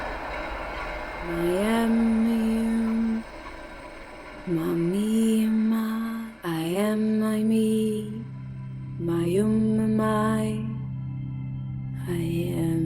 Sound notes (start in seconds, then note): 1.3 speaking in foreign language; 7.5 soft dramatic music